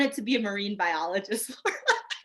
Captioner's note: laughing